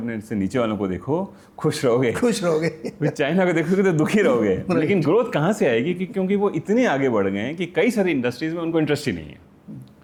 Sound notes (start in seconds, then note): 2.4 laughter